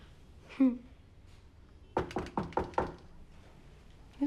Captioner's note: knocking at door